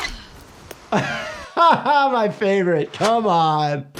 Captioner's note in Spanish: risas